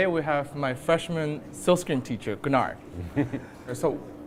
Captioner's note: chuckling